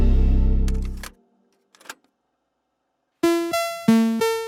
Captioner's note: tape clinking; upbeat electronic music